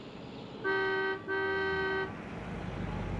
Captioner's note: horn honks